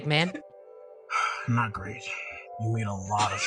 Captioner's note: sigh